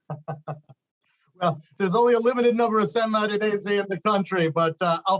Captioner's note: laughs